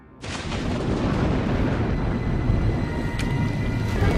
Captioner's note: thunder rumbling